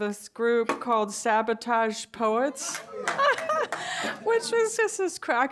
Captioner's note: laughs